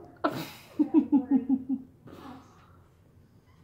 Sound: laughs

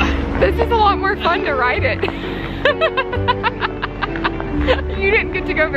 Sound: laughs

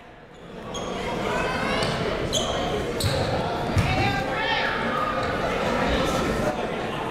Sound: crowd talking; coaches yelling

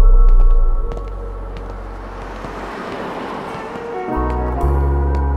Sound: car engine revving

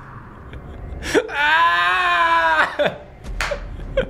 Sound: pained scream

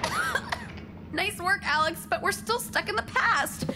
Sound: coughing

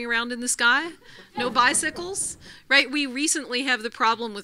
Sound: laugh

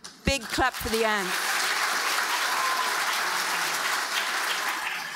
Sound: audience applauding

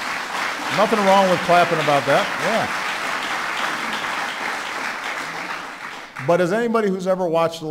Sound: applause

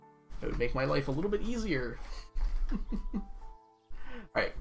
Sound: chuckles

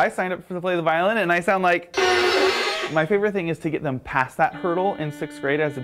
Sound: screeching sound effect

